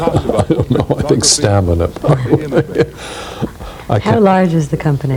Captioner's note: laughing